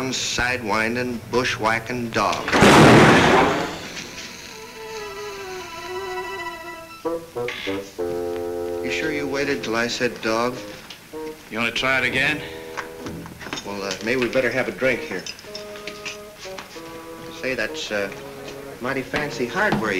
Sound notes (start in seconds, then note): 2.4 gun bangs